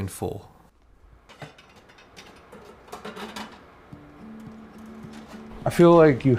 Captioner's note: pots clamoring